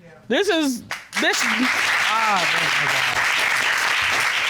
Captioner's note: audience applauding